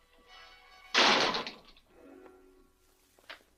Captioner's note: door slams